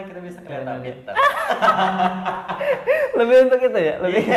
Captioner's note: laughing